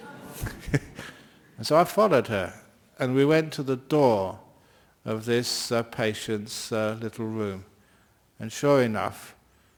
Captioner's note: laughter